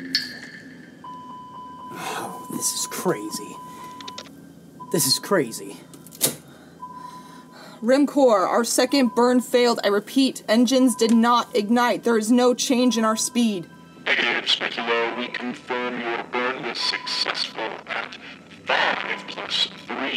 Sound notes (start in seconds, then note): 1.1 computer dinging; 1.9 groans